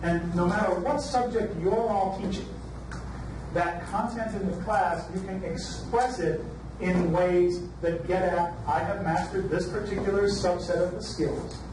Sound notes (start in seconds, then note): none